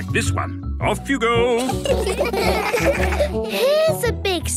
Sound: laughter

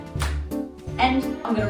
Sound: snap

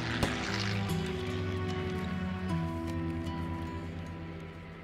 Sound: airplane flying overhead

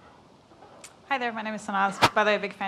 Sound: microphone static

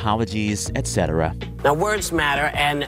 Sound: soundbite of tv show, "the view"

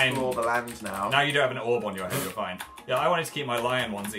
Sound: snorts

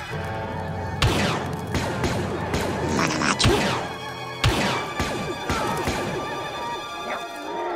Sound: blaster fire

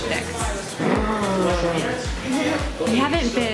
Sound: gasps

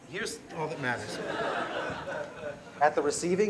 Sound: laughter

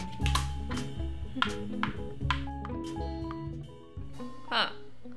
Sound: game piece clicking

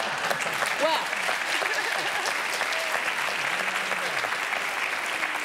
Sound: laughter; applause

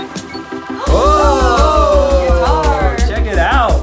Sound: groans; gasping

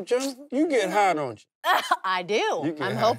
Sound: laughs

